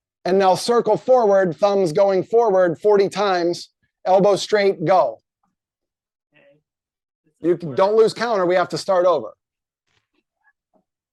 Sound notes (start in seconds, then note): none